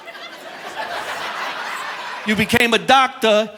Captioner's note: audience laughing